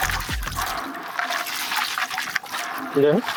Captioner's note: sound of pebbles clacking